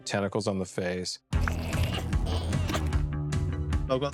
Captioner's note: creature strains